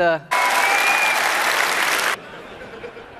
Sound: audience Cheering

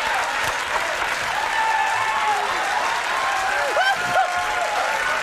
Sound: crowd applauding, cheering, and laughing; Conan and Andy laughing

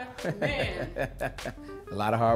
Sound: laughs

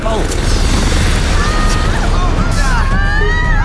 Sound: all exclaiming

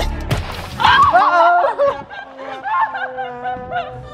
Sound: laughing

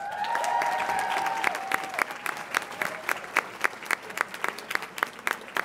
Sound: audience applauds and cheers

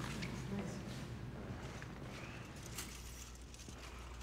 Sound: metal clinking

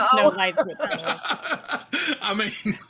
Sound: laughs

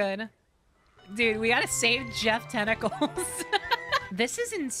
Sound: laughter

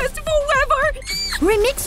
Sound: ecstatic squeal

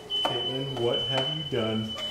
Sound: smoke alarm beeping

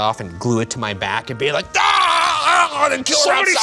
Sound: screaming

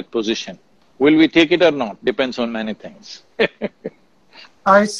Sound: laughs

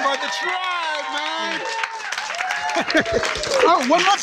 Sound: cheering

